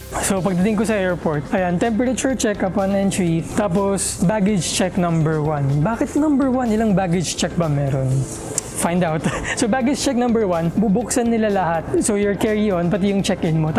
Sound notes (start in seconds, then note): 9.0 giggles